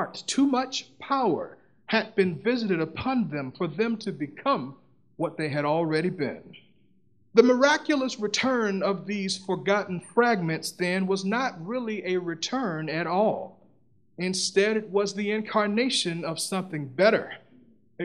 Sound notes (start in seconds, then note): none